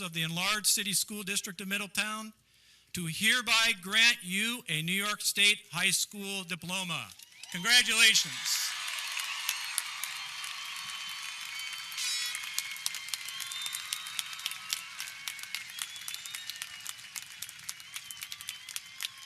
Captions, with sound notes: of the Enlarged City School District of Middletown, to hereby grant you a New York State High School Diploma. Congratulations! (audience cheering) (air horn blares)